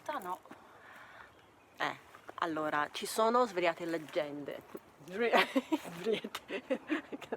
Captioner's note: laughs